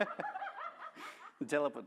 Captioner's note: laughter